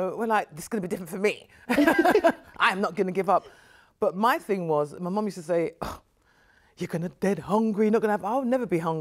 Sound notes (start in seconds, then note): 1.7 both chuckle